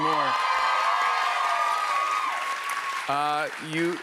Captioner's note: cheers and applause